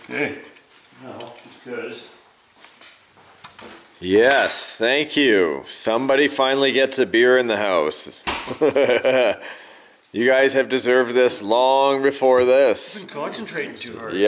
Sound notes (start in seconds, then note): 8.5 laughs